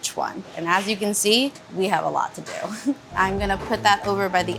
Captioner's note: laughing